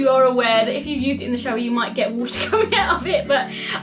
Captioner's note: laughs